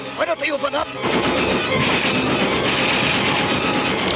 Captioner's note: gunshots